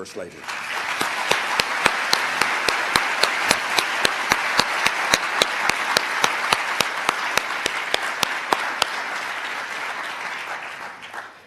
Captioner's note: applause